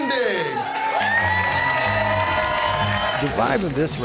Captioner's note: cheers and applause